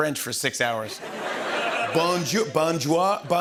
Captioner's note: laughter